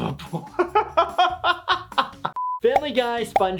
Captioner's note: doctor laughing